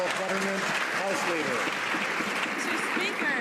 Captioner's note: some Applause